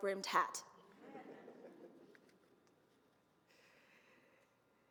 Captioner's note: audience laughs